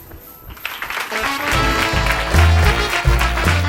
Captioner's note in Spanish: Aplausos